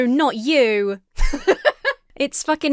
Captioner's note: laughs